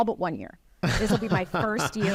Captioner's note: laughs